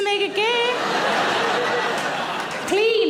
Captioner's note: audience laughing